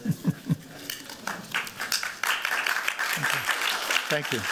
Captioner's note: chuckles; applause